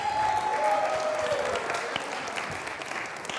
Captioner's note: applause